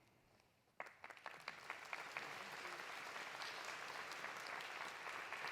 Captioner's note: audience applauding